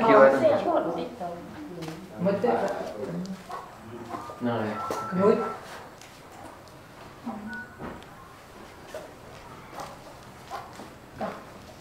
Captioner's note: chattering